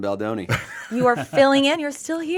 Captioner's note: laughs